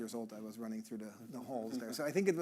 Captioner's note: chuckling